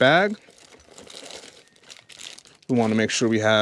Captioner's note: plastic rustling